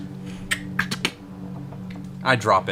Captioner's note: click